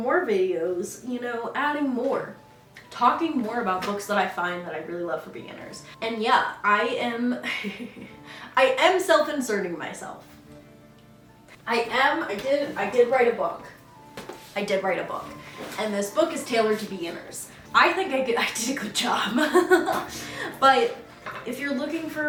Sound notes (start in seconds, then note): 7.0 laughs; 19.9 laughs